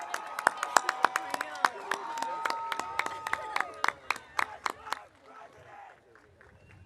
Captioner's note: audience cheering; audience applauding